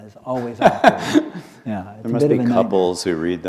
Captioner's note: laughter